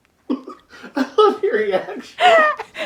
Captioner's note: laughing